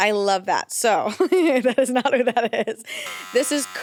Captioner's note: laughs